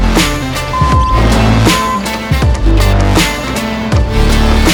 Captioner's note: upbeat music; machinery beeping; upbeat music